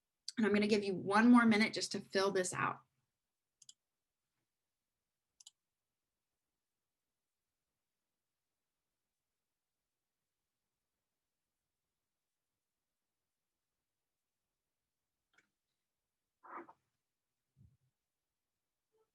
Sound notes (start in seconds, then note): 3.6 mouse clicking